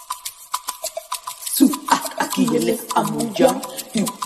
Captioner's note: foreign language